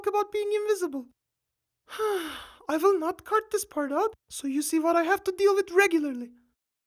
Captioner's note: sigh